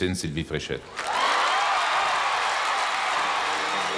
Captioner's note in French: acclamations